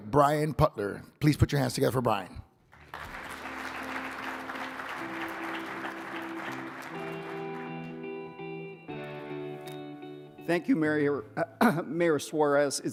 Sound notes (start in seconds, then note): 2.7 audience applauding